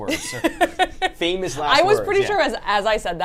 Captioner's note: laughing